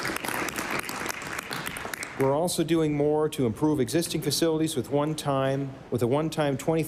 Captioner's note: applause